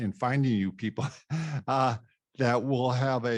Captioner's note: laughs